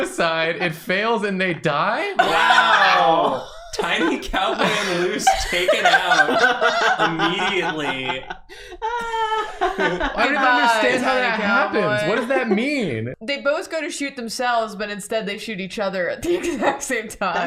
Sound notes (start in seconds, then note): 6.4 laughter